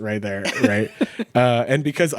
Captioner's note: laughing